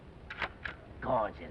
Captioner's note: shutter clicks